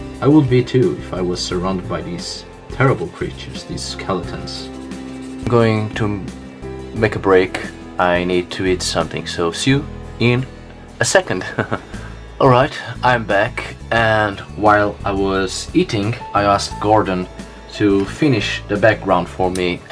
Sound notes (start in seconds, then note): 11.4 giggles